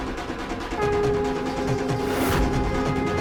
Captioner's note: conch blows